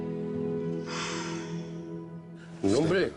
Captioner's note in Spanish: Suspiro